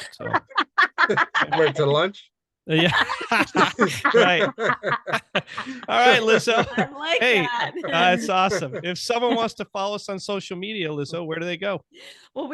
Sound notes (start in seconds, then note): 0.1 laughing loudly; 1.1 murmurs